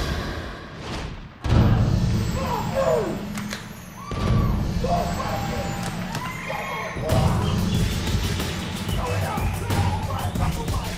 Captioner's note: crowd cheering